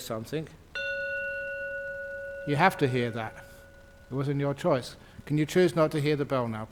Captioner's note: Ajahn rings the bell